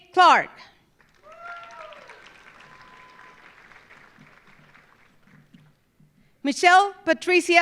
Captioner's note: audience applauding; audience cheering